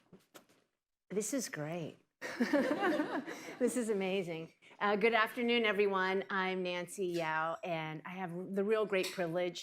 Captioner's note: laughter